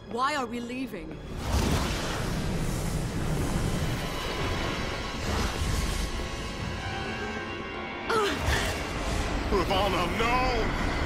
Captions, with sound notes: Why are we leaving? [WINCING] Ravonna, no.